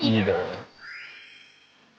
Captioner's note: speak in unison